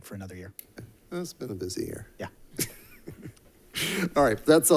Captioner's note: both chuckling